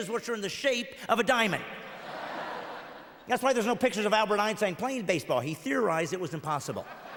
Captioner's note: audience laughs